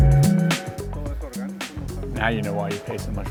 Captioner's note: speaking foreign language